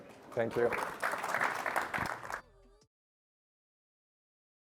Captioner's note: audience applauds